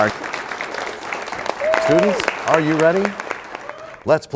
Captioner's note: applause